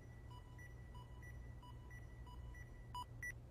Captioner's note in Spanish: Pitidos